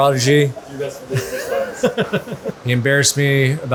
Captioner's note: laughs